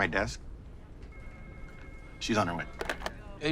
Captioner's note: phone ringing; phone clicking